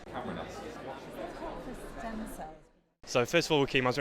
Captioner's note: talking crowd